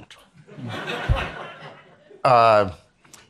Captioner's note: attendees laughing